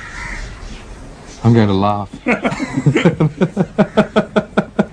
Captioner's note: laughter